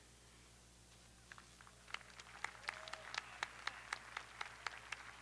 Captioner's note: audience applauding